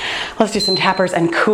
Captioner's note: timer beeps